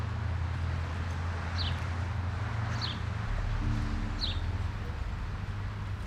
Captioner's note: birds chirping; people unloading bicycles